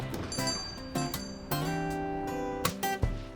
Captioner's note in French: sonnerie de la porte